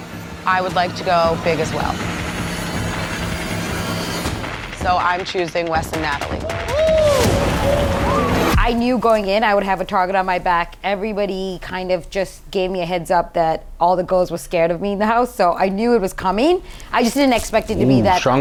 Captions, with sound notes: I would like to go big as well. (tense music) So I'm choosing Wes and Natalie. (crowd woes) - I knew going in, I would have a target on my back. Everybody kind of just gave me a heads up that all the girls were scared of me in the house. So I knew it was coming. I just didn't expect it to be that uh